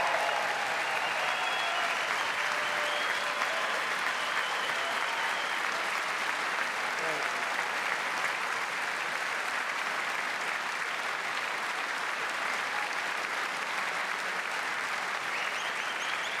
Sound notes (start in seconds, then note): 10.7 applause